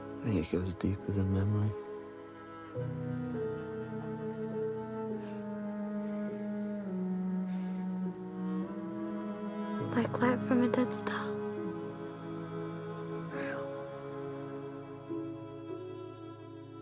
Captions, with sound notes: - I think it goes deeper than memory. (gentle music) (insects chirping) (gentle music) - Like light from a dead star. - Yeah. (gentle music)